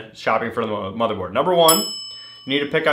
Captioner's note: bell rings